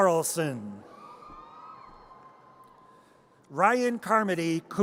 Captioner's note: audience cheers